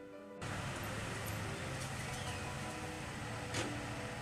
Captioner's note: gentle classical music continues; engine rumbling